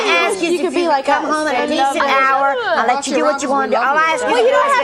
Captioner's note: overlapping chatter